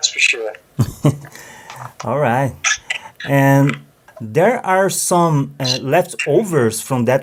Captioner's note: laugh